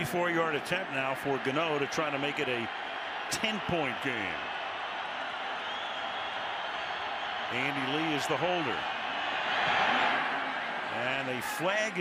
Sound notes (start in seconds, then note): 4.9 crowd cheering